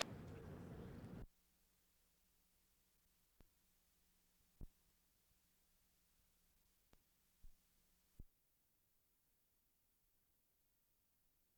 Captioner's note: silence